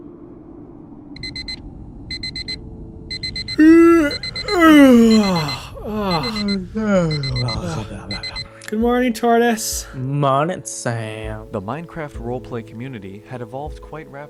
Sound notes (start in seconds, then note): 0.5 alarm clock beeps; 3.5 yawns; 6.7 yawns but weird